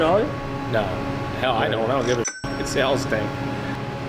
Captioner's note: ding